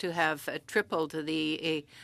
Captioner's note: speaking French